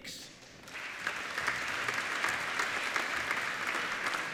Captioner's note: applauding